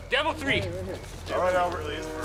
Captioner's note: train horn